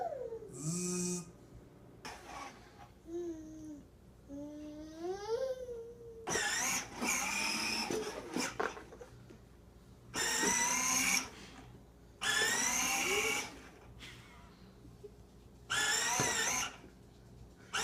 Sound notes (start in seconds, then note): 0.9 imitating machine sounds; 3.4 cooing